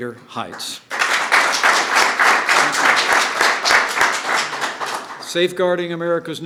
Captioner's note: applause